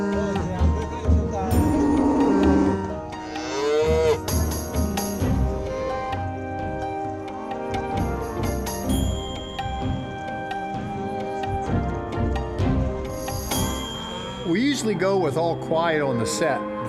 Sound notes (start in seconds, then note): 3.1 cow lowing